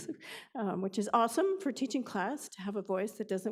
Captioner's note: chuckles